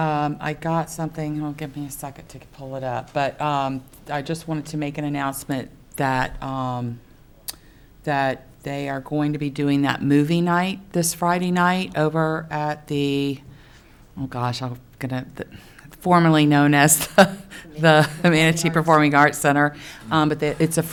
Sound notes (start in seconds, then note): 17.2 chuckle